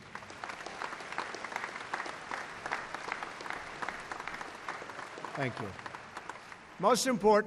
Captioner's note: applause